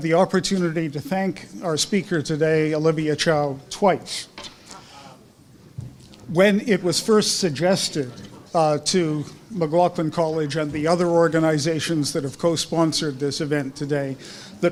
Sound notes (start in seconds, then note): none